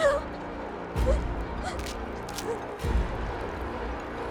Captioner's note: Alana gasping